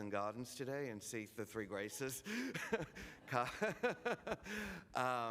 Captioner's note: laughs